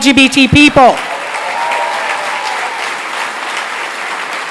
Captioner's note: applause